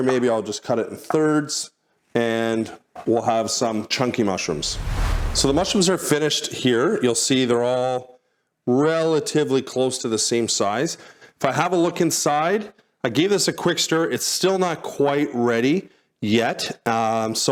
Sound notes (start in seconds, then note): 4.4 graphic whooshes